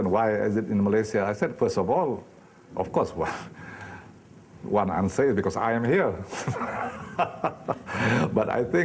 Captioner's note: laughing